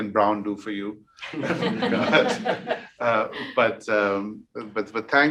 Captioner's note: all laughing